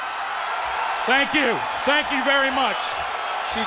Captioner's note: crowd cheering